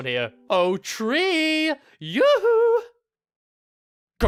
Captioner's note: singsongy